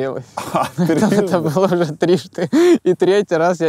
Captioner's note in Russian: смеясь